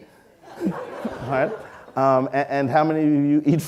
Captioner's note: audience laughing